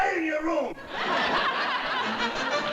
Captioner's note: audience laughing